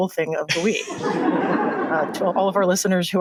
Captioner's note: laughter